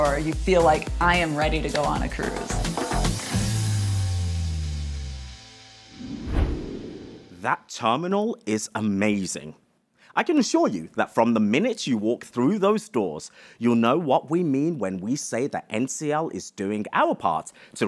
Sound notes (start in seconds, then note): 3.5 screen whooshes